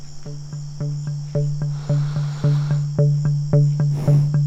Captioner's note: deep animal breaths